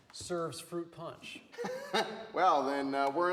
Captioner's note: Wes laughs